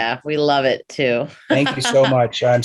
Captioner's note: laughs